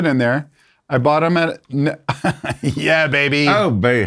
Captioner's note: laughs